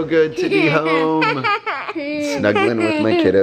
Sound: laughs

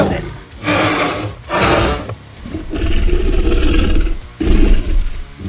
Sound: T-Rex Growls

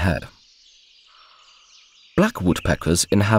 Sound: sounds of nature

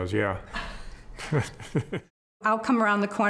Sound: laughing

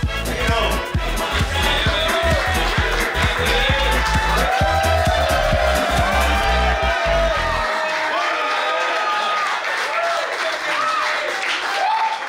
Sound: crowd Cheering

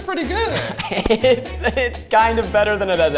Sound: laughs

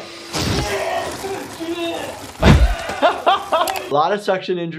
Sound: Homer screaming

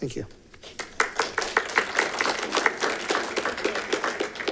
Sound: congregation claps

